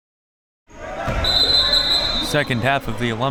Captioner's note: whistle blowing